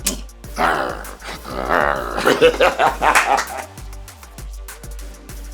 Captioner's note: growling and laughing